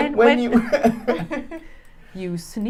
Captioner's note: laughing